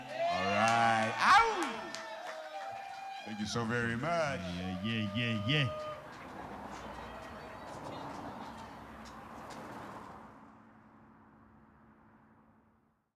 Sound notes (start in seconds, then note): 4.4 cheering